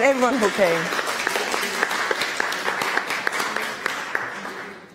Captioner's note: clapping